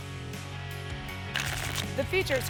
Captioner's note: tickets shuffling